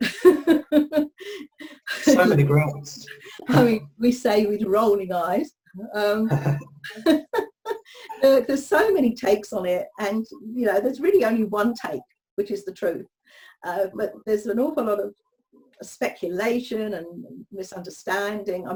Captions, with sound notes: (speaker laughs) - So many grants. - We say, with rolling eyes. (both speakers laugh) Look, there's so many takes on it and there's really only one take that is the truth. But there's an awful lot of speculation and misunderstanding,